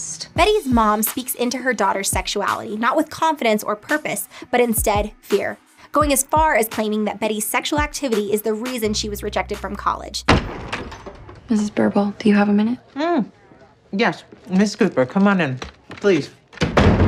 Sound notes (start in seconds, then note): 10.2 door creaking; 16.5 door shutting heavily